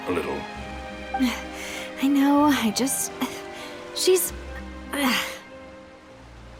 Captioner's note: sigh